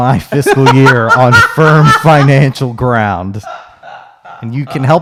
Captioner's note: laughing